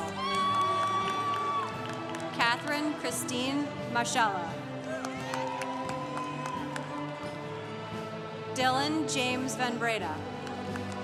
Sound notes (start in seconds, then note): 0.0 congregation cheering; 4.8 congregation cheering; 10.2 congregation applauding